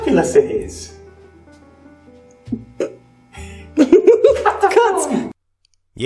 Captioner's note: snigger